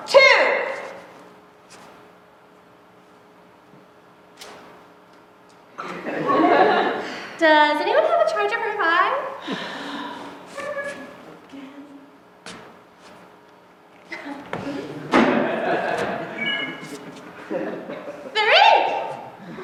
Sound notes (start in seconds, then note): 5.8 laughter; 16.2 charger chimes